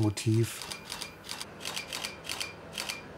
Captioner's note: camera click